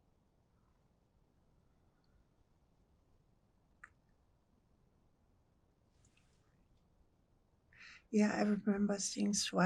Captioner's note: pauses 8 seconds